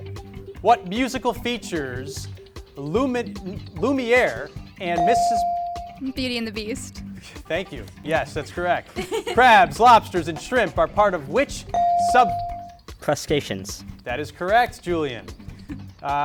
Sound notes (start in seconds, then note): 5.0 beep; 9.0 chuckles; 11.7 beep